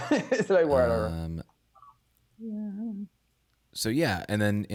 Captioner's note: laughs